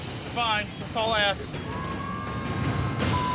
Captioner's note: sirens